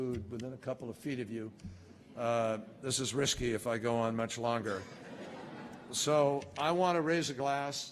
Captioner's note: laughter